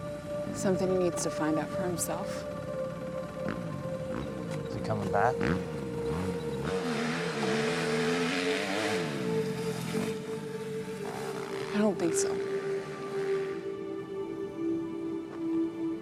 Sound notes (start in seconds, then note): none